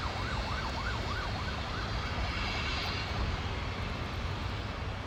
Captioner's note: distant sirens wailing